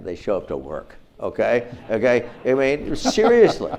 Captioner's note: audience laughs